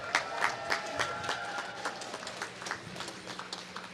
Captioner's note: applause